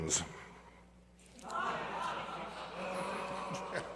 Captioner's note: laughter